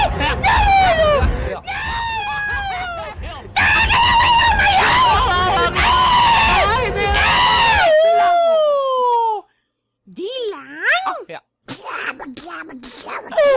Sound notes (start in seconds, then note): 5.7 he scream on vietnam again; 11.8 speedy Noises